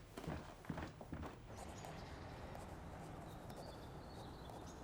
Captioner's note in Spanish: pájaros cantando